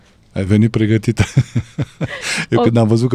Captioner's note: laughter